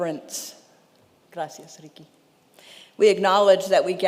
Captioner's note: speaking in Spanish